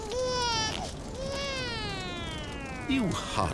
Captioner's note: crying winds down